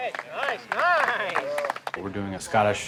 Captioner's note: cheering